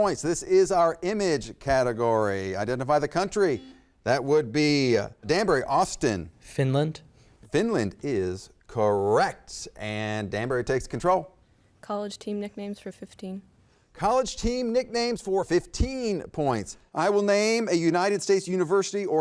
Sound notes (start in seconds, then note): 3.5 button beeping